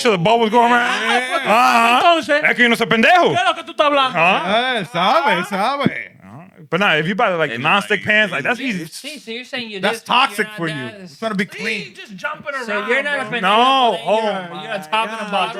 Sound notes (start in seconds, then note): 2.5 non-english Speech